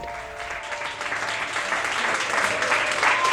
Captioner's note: applause